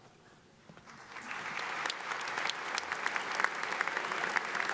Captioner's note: audience applauds